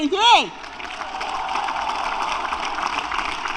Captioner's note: applause